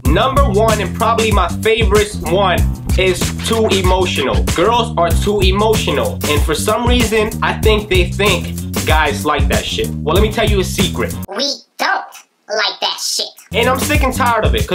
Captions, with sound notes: Number one, and probably my favorite one, is too emotional. Girls are too emotional. And for some reason, I think they think guys like that shit. Well, let me tell you a secret. (SPEAKING IN A HIGH PITCH) We don't like that shit. And I'm sick of tired of it.